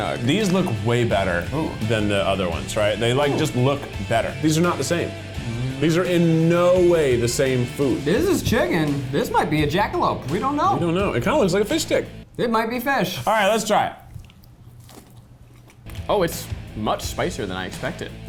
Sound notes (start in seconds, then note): 13.8 munching